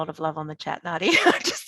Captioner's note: laughing